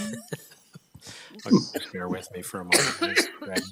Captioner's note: person laughing